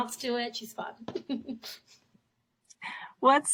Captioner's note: laughs